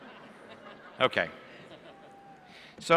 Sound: laughter

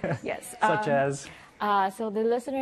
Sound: laughs

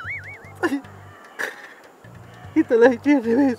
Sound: whimpers

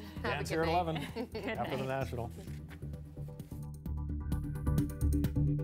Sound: laughter

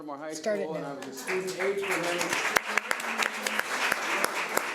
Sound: audience clapping

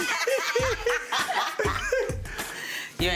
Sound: laughter

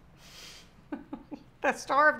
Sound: laughs

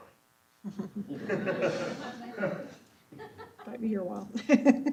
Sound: laughter

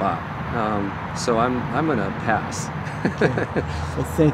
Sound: laughs

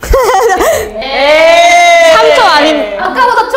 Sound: booing again

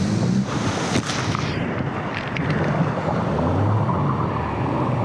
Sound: water splashing

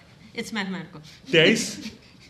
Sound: chuckling

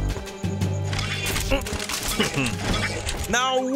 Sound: chuckling; grunting

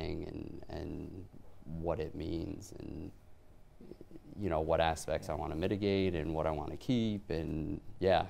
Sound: none

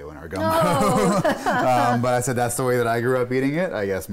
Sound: laughing

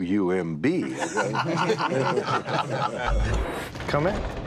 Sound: laughter

